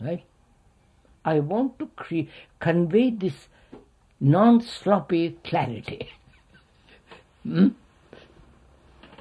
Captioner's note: laughs